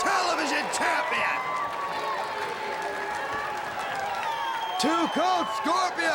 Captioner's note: crowd cheering